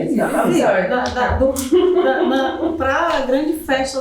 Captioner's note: speaking portuguese